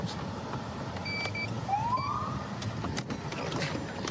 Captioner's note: siren chirps